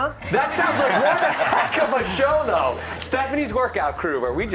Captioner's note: laughter